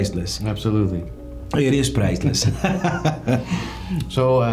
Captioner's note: laughing